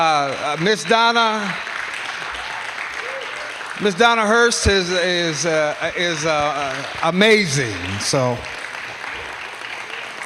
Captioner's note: applause